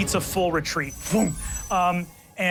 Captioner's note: chimes ringing